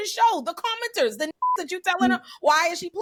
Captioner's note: beep